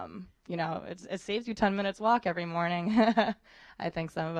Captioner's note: laughter